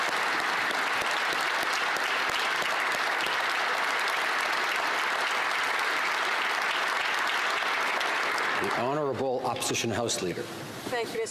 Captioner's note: some Applause